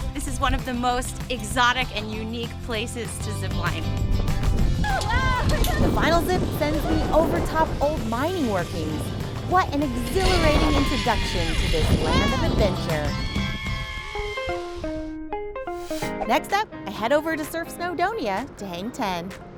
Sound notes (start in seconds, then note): 13.3 screaming; 15.7 upbeat music